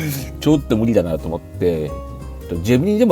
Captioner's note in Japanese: 鼻息